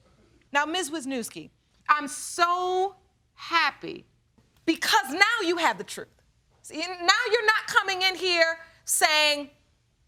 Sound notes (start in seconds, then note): none